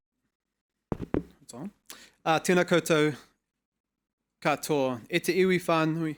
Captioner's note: speaking foreign language